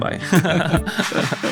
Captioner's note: laughing